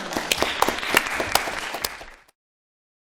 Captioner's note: applause